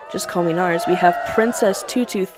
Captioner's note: cheering